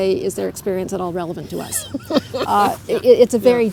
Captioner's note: laughter